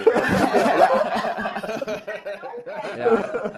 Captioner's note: laughter